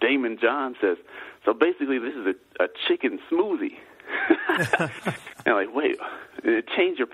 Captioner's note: laughs